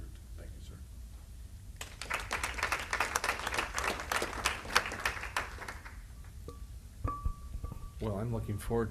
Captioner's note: applause